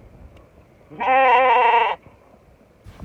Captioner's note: sheep BAAAAA